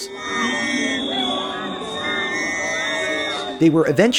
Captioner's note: booing, whistling